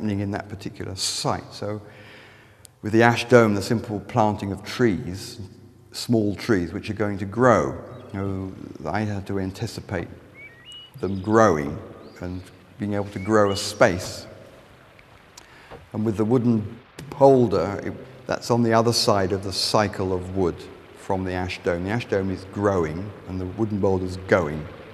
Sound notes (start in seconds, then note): 8.0 birds chirping; 14.0 sound running stream of water